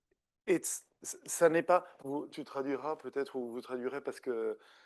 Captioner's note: speaking French